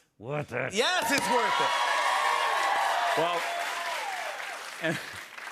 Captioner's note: cheers and applause